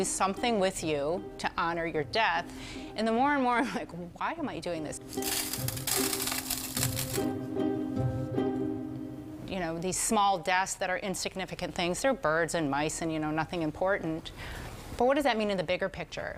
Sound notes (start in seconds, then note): 5.0 pebbles pouring; 8.6 upbeat music